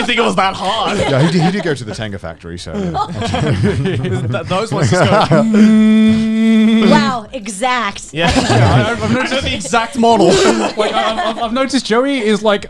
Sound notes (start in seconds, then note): 0.0 all laughing; 5.7 steady buzzing; 8.2 all laughing